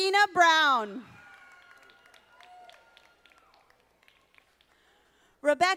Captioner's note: audience applauding